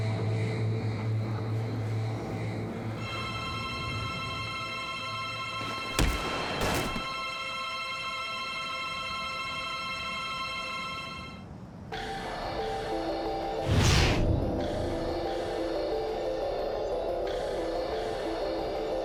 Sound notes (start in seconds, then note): 2.5 tense orchestral music; 5.6 fleshy thud; 5.6 gun fires; 13.6 whooshing of air; 15.3 tense orchestral music